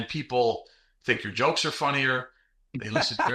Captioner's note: laughing